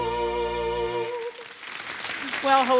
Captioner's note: audience applauding